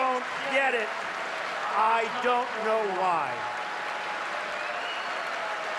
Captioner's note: cheers and applause